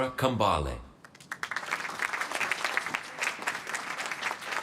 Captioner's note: applause